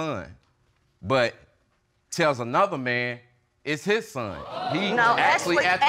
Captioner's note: audience gasping